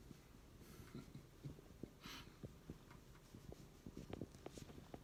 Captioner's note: man chuckling